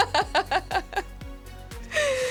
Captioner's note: laughing